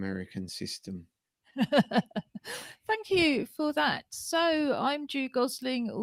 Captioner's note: laughter